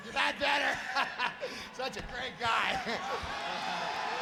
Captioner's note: Roddy laughing